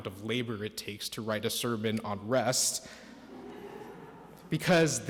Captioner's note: audience laughs